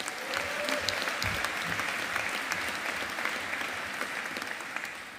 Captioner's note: audience applauding